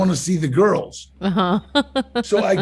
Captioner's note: laughs